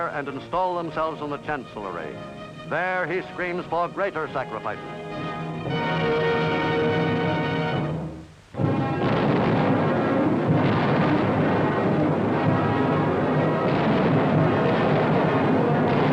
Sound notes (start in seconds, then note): 5.8 dramatic music crescendos; 8.6 artillery blasting; 12.7 tense dramatic music